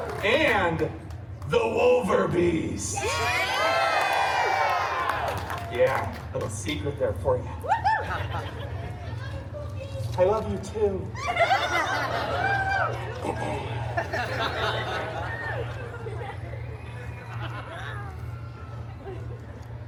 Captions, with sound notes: and the Wolver-beast! [guests cheering] Yeah. A little secret there for you. FEMALE GUEST Woo-hoo! FEMALE GUEST I love you, pokey! I love you, too! [guests cheering and laughing] [guests laughing]